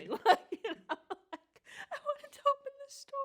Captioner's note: laughs